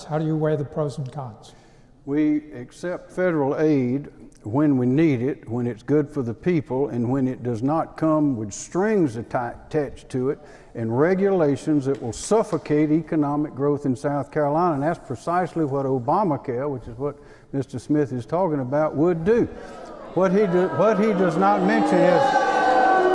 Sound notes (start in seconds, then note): 19.7 audience booing; 22.9 laughs